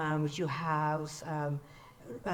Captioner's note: speaks in foreign language